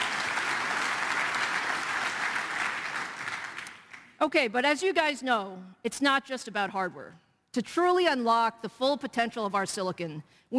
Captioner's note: applause